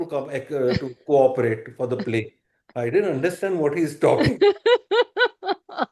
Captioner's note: laughter